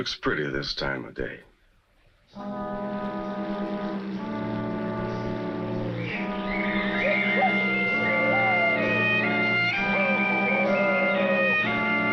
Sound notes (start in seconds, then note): 1.3 boat engine rumbles; 2.4 uneasy music